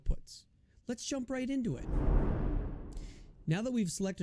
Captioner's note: air whooshes